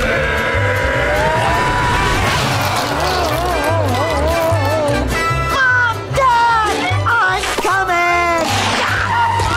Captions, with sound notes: [groaning] Mom! Dad! I'm coming!